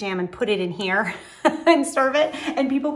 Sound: laughing

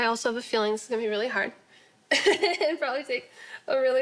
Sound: laughing

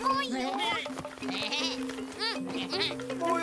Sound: bleating

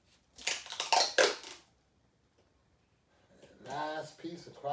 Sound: tape squeaking

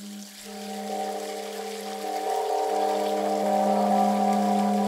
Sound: water flowing; gong echoing

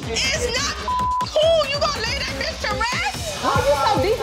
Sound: beep

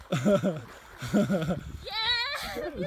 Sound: laughter

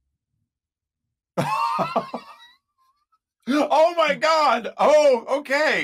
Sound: laughing

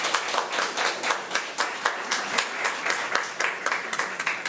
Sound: crowd clapping

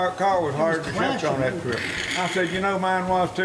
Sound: imitates engine

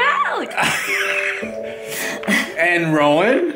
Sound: laughing

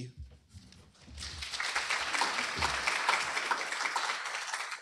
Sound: applause

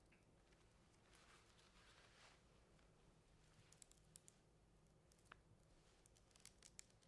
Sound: sounds of plastic being peeled off

